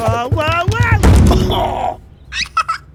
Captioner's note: body thuds; Bluey laughing